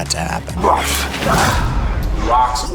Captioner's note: grunting